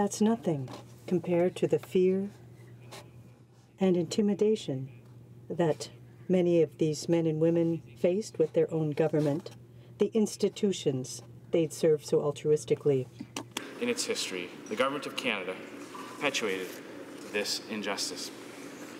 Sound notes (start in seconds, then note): 5.3 speaking French